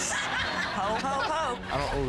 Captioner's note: all laughing